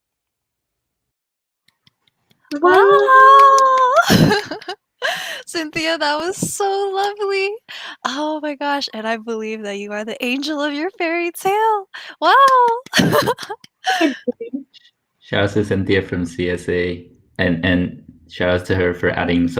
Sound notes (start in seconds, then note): 2.5 claps; 12.3 claps; 13.9 laughs